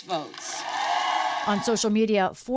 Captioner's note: cheering